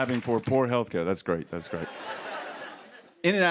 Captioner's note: laughter